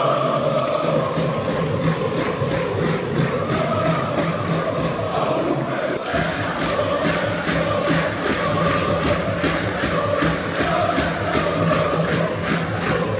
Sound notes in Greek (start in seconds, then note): 1.8 χειροκροτημα